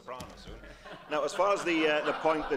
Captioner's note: laughter